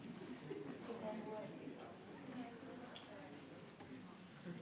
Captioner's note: group quietly conversing